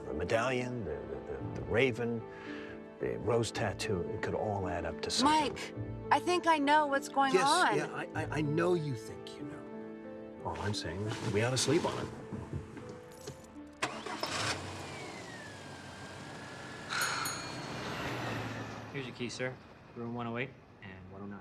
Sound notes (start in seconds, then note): 13.7 engine rumbles; 16.8 bell dings; 17.3 Jill sighs